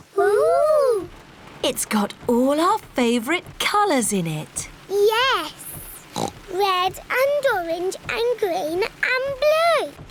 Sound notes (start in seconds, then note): 6.1 oinks